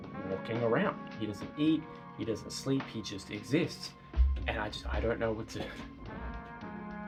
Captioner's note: rumbling Noise